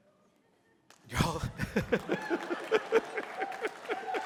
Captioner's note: laughs; applause, cheering